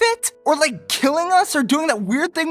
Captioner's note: none